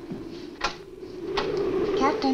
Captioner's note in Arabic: عواء الريح